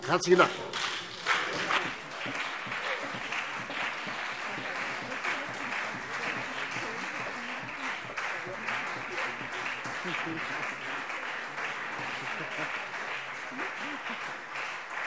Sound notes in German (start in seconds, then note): 1.9 Lang anhaltender Beifall CDU und BÜNDNIS 90/DIE GRÜNEN